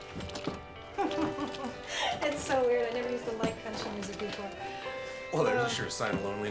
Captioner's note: chuckles